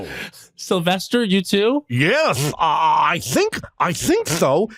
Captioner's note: lisping